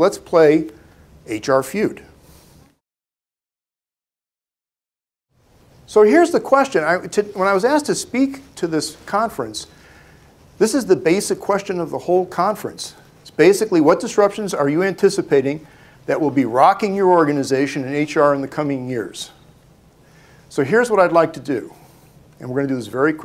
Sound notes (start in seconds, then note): none